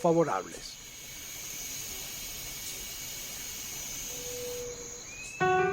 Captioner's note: night sounds